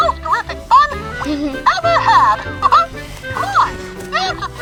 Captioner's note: laughs